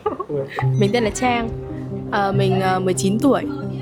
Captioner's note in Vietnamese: tiếng cười